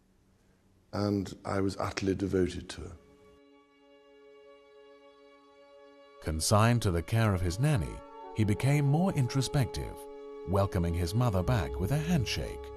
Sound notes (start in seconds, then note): 3.2 solemn music; 6.0 voiceover